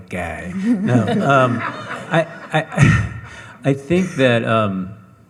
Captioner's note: audience laughing